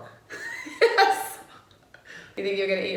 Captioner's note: laughs